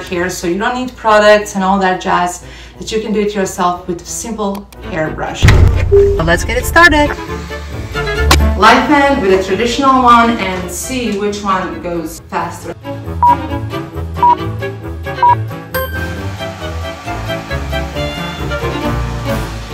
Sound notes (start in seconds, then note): 12.0 lively music; 13.2 timer beeping; 17.1 lively music